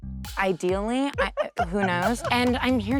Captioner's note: laughing